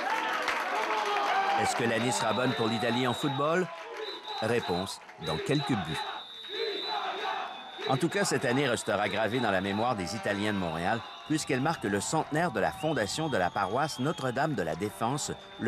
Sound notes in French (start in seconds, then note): 0.2 Les gens applaudissent; 6.9 en italiene